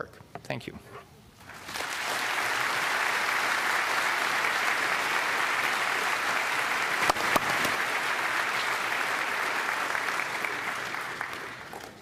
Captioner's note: applause